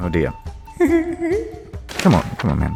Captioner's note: God giggling